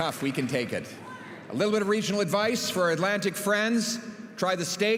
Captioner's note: cheering